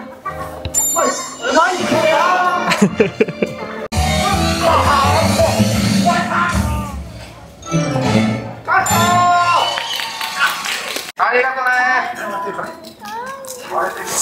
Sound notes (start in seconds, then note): 2.6 laughs; 8.8 police exclaims; 9.7 applause